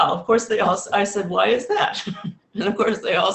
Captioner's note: laughs